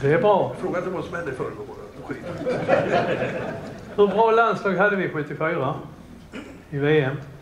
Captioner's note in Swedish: Skratt